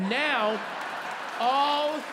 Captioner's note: audience laughing and clapping